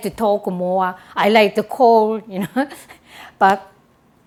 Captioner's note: laughs